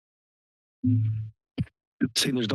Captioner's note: mircophone thump noise